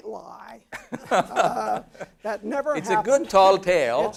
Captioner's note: laugh